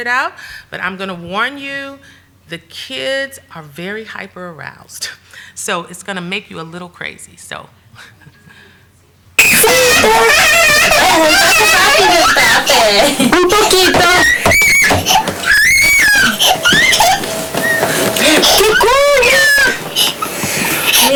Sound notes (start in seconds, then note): 9.4 hysterical crying and screaming